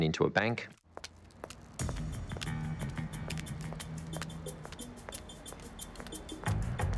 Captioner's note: footsteps clacking; dramatic music